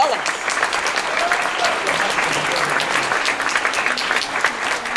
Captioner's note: applause